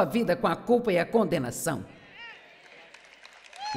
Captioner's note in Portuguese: audiência aplaude